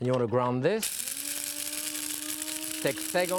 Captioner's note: machine whirring